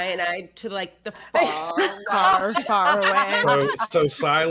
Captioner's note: all laughing